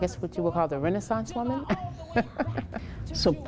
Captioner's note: laughs